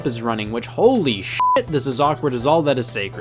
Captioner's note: beep